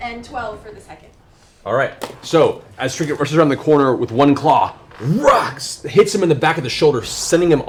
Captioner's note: whacks